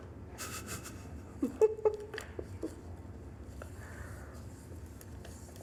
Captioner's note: giggling